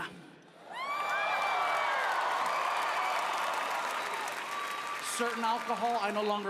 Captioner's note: audience cheering; audience applauding